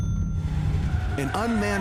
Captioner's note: tires squealing